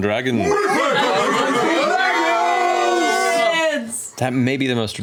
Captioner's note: hollering